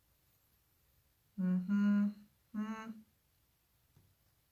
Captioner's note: humming